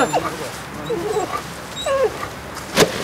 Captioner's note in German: Winseln